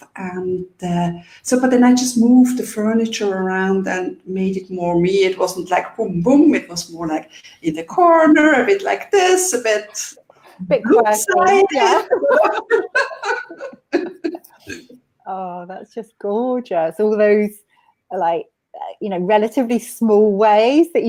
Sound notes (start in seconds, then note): 12.4 both laughing